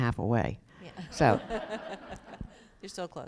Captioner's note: laughter